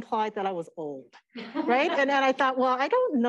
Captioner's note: laughter